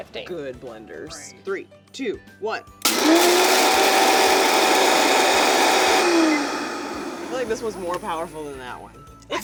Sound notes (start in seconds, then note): 2.8 blender starts; 6.1 blender powers down